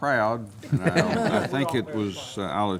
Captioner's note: laughter